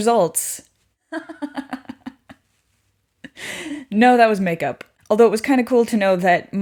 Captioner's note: laughing